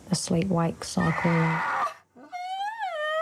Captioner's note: screams; whines